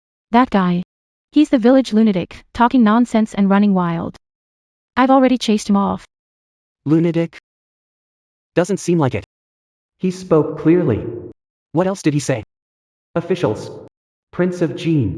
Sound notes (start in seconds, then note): 9.9 he spoke clearly